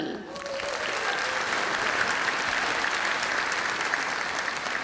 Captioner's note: applause